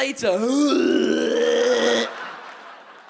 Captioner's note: wretching